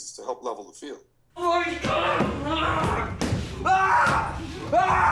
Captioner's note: Johnny shouting and banging